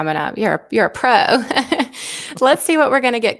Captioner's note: laughs